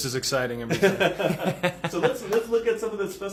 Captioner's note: laughing